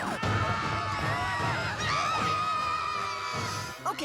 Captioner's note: screams; panicked screaming